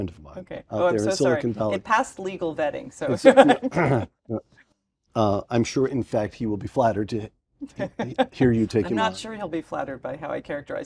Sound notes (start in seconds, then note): 3.2 laugh; 7.7 laugh